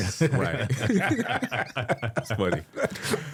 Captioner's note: group laughing